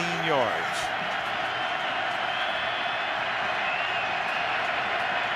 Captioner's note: crowd cheering